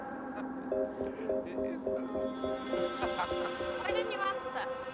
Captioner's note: laughs; laughs